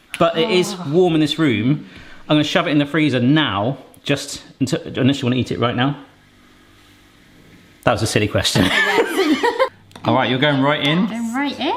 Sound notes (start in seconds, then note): 8.6 laughing